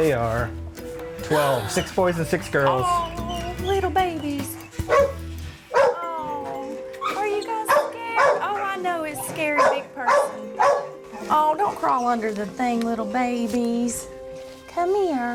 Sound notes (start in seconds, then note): 1.3 gasping; 4.7 dog barking